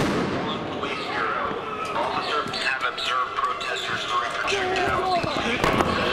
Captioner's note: police command over LRAD